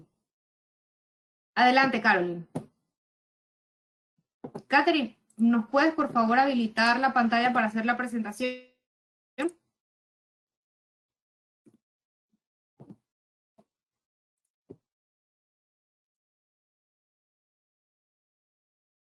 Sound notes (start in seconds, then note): 8.4 silence